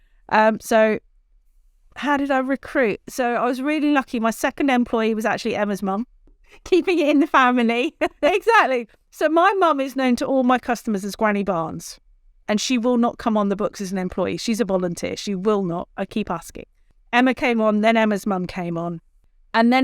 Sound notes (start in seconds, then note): 7.8 laughs